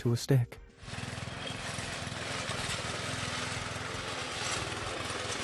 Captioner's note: lawnmower whirring